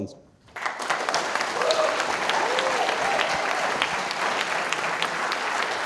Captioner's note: audience cheering and applauding